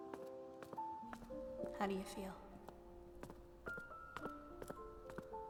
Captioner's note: voice echoing